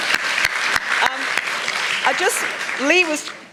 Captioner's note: applause